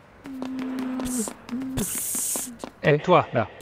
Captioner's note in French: Pssssssst !